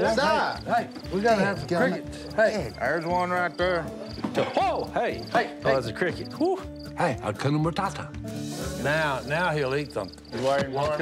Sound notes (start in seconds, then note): 8.8 crickets chirping